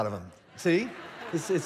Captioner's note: congregation laughing